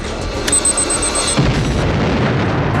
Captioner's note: transponder beeps; bomb explodes